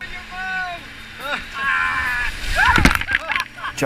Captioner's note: yelling